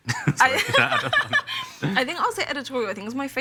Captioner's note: laughs